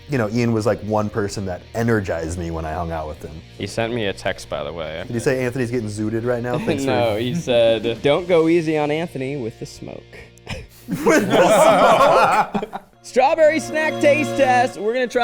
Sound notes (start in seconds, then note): 10.5 chuckling; 12.4 people laughing